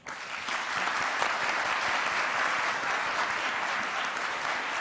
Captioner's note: audience applauds